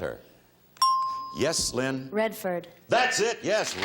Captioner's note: bell chimes